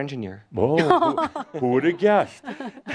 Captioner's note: giggles